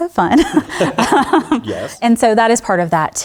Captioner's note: laughter